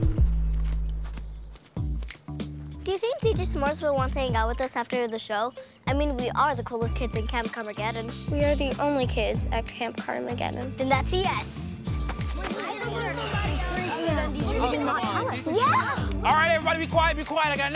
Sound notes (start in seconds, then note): 12.1 children chatting